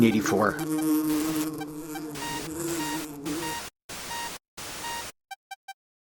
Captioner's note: buzzing